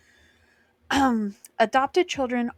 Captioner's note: clears throat